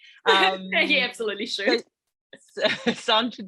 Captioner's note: laughing